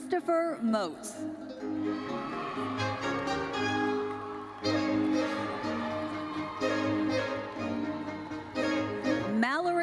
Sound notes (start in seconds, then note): 1.7 audience cheering; 8.0 lively uplifting music continues